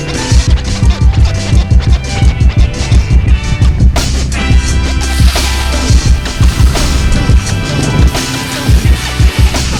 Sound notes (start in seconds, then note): 3.7 upbeat music continues; 6.5 skis scrape